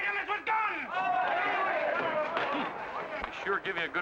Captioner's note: crowd cheers